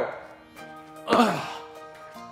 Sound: groaning

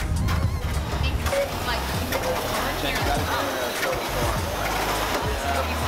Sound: music drowns out speakers; ski machine whirring

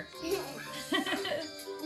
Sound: laughing

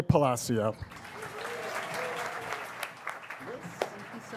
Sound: audience cheers and applauds

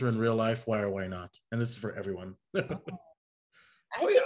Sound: laughs

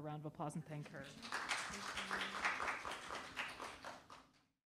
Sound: audience applauds

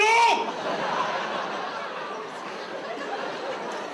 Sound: audience laughs

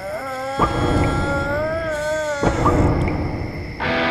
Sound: Murri making groaning noises

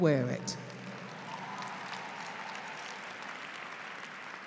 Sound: applause

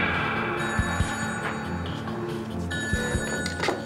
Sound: phone ringing

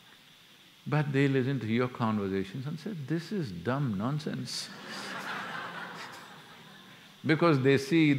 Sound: laughter

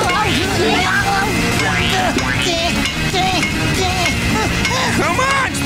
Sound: grunting

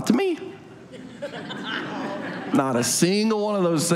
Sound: audience laughs

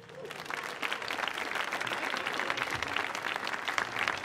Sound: audience applauding

